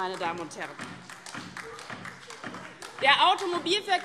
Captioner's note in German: Beifall DIE LINKE - Zuruf AfD